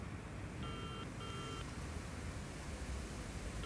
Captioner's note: ringing tone